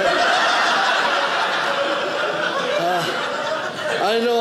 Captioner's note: audience laughing